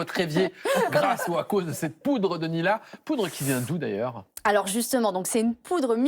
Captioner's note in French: rires